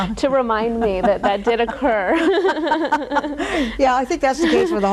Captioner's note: laughing